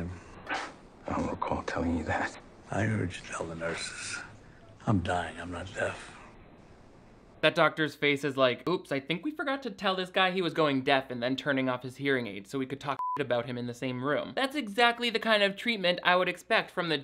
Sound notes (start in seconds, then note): 13.0 beep